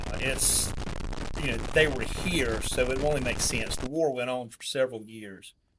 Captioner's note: none